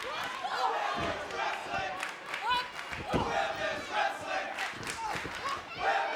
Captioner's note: crowd chanting "women's wrestling"